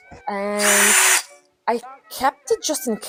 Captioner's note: sound of a drill turning on